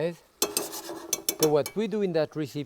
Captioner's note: pan scraping; spoon tapping